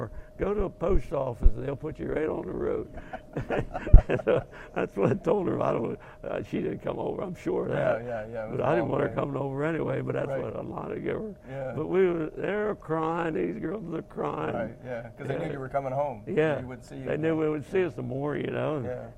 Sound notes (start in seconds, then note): 2.7 both laugh